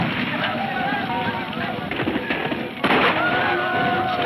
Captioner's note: explosion booming; men shouting; guns firing